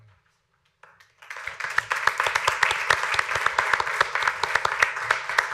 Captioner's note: applause